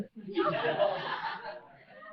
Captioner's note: laughter